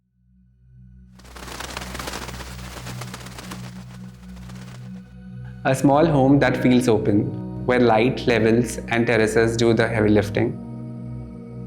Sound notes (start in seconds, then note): 1.2 flock of birds flattering